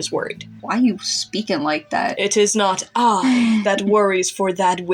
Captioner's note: chuckle